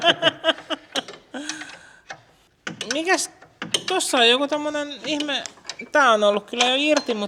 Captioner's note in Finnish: naurua